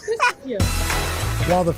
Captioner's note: laughter